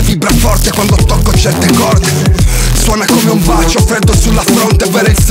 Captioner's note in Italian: brr